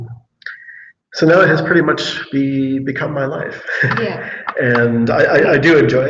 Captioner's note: laughs